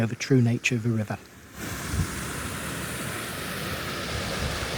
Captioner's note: sound of fast flowing water